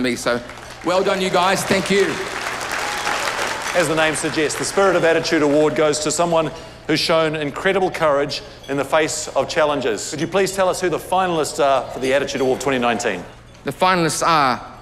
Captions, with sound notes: He waka eke noa — a waka we're all in together. (CHEERS AND APPLAUSE) Now I get to pass you over to my comedy hero. Willy de Wit, are you there?